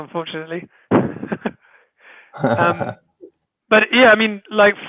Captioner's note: chuckles